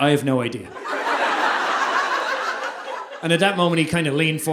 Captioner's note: audience laughing